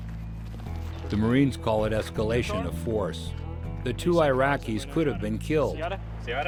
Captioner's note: voiceover